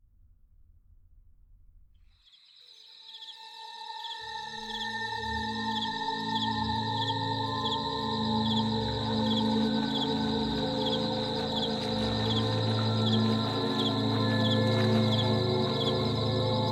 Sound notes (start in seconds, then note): 2.2 crickets Chirping; 4.5 ominous Music Plays; 8.7 water Splashing